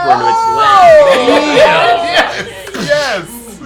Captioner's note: all yell